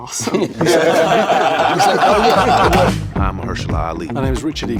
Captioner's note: group laughs